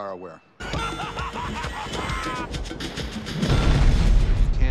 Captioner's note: laughter; explosion